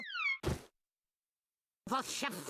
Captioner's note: wig thudding